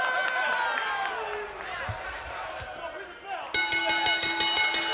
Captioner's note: bell ringing